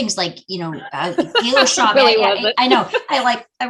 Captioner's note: laughing